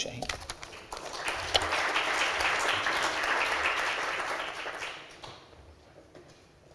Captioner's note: applause